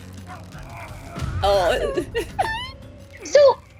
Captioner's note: grunts